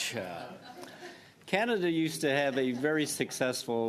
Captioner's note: laughter